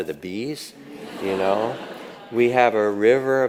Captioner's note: audience laughs